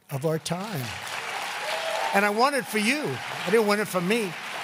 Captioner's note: applause